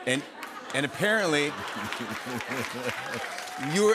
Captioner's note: cheers and applause